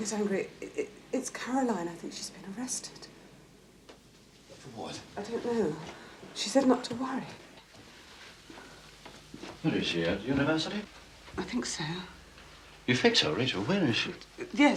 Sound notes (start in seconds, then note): none